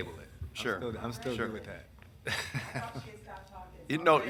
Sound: laughs

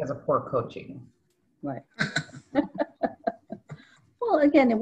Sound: laughing

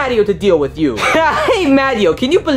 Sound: scoffs

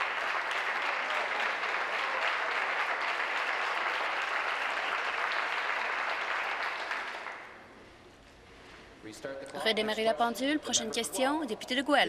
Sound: applause

